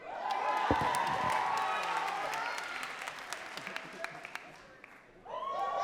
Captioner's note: crowd cheering and clapping